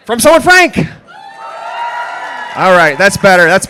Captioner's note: applause